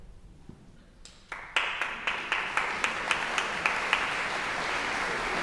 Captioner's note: audience applauding